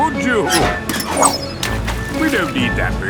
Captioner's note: splashes